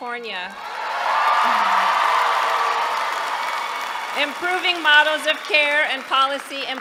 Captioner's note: applause